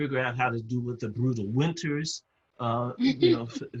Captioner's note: laugh